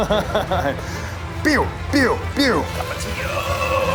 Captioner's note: makes laser sounds